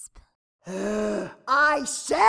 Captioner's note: exasperated sigh